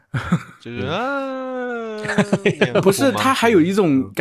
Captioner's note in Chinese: 装哭